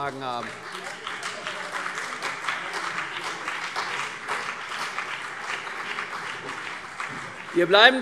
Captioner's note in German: Beifall CDU und BÜNDNIS 90/DIE GRÜNEN